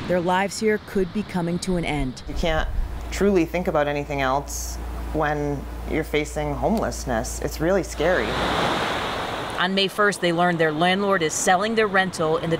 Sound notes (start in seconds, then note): 7.9 wave crashes